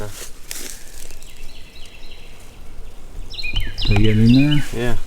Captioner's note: birds chirping